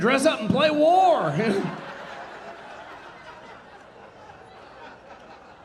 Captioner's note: audience laughing